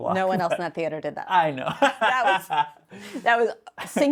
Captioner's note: laughs